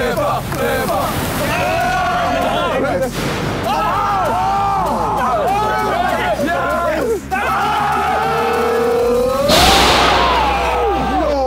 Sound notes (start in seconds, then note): 0.1 all cheering; 2.8 metal clanking; 3.6 al cheering; 9.3 metal clanking